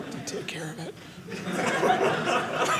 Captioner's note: audience laughing